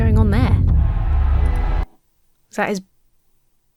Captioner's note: crowd shouting